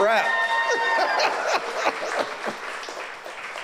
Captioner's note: audience cheers